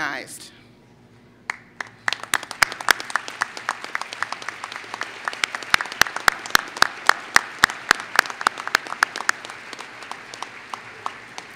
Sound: applause

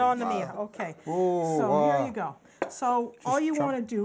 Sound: speaking Italian

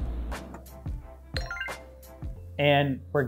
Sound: dinging

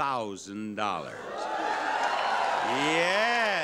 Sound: audience cheering

